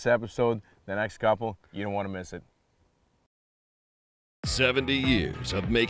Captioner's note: none